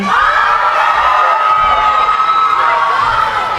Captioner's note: cheering